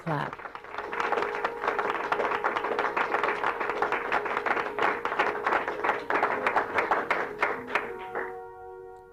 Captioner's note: crowd Clapping